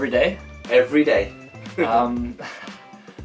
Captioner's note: laughs